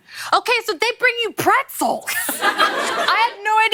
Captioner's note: laughter